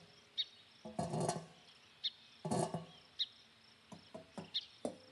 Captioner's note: metal grinding; birds chirping